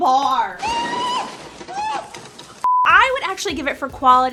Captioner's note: screaming